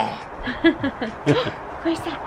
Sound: gasps

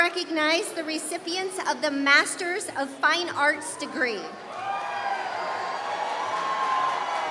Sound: applause

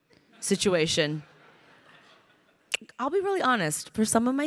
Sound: crowd laughing

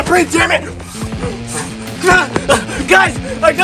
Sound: blowing & Grunting

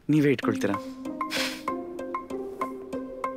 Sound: huff

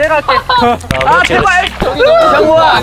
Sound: heart pounding

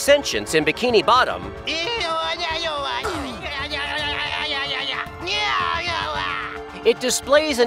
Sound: babbling

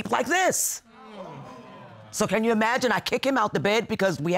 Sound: audience exclaiming

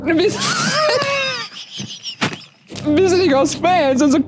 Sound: both laugh

